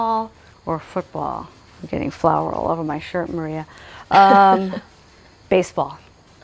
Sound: laughs

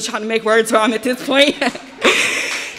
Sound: laughs

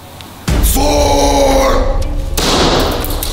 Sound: screams

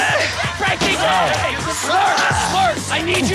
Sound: furniture breaking

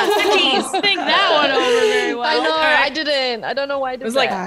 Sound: laugh

